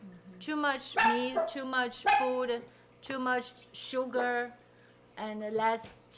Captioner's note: dog barking